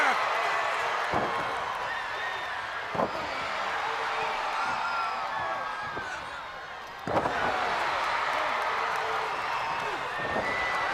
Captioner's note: crowd cheering